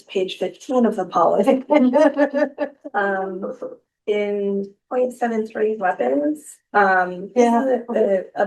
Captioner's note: laughter